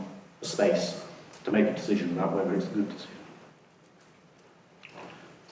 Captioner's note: whispers